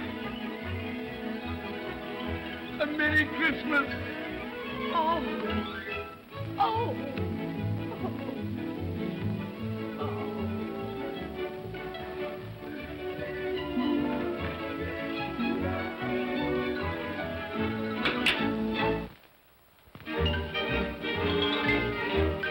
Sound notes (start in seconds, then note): 0.2 whimsical music; 7.5 whimsical music; 17.9 comb clatters down; 20.1 whimsical music